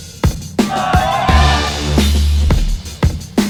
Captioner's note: crew cheering; uptempo hip-hop music continues